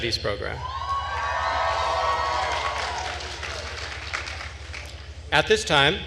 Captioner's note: attendees cheering and applauding